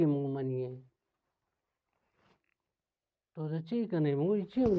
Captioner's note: none